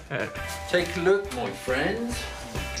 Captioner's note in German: englisch